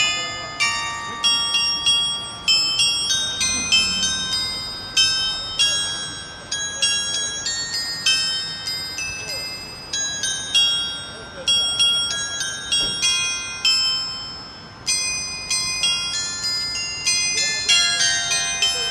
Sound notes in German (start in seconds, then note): 0.2 glocke